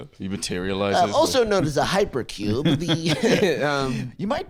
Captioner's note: laughs